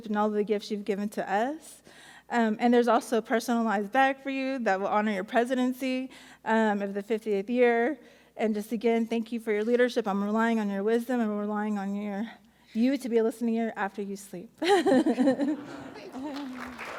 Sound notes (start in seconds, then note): 14.7 laughs